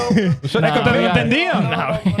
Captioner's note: speaking In Foreign Language